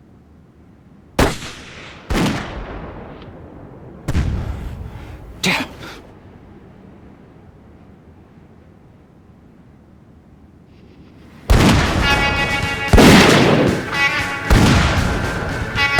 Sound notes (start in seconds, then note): 4.0 gun fires; 11.2 suspenseful western music